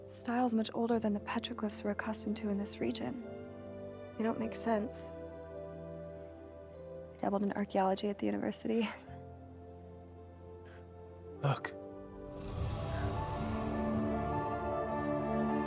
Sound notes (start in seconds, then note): 10.7 laughs; 12.7 bright music